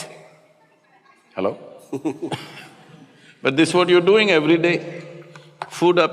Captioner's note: Matthew Laughs